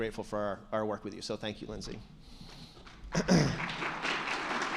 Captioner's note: attendees clapping; clears throat